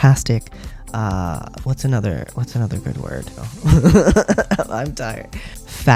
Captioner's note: laugh